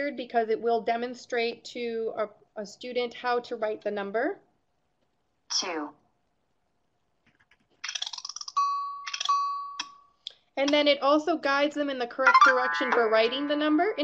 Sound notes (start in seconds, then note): 5.5 computer voiceover; 7.4 rattling and tone beeps